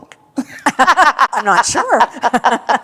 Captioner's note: laughter